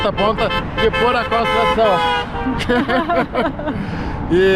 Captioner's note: horn honking